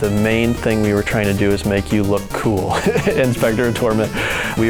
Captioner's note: laughs